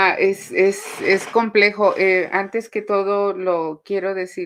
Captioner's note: speaking Spanish